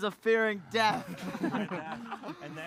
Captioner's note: laughter